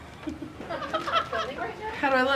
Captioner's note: laughter